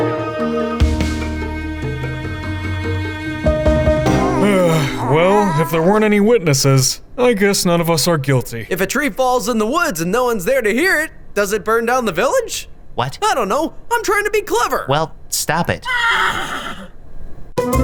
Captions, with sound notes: - (sighs) Well, if there weren't any witnesses, I guess none of us are guilty. - If a tree falls in the woods and no one's there to hear it, does it burn down the village? - What? - I don't know. I'm trying to be clever. - Well, stop it. (horse neighs)